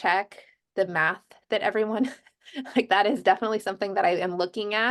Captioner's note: laughter